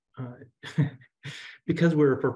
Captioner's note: chuckles